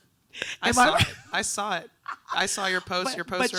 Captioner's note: laughing